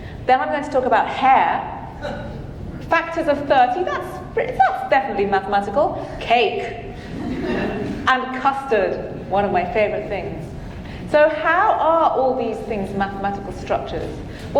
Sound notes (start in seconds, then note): 7.1 audience laughing